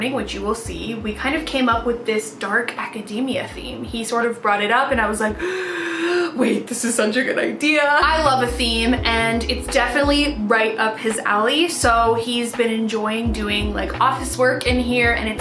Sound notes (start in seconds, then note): 5.4 inhales deeply